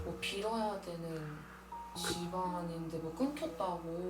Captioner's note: none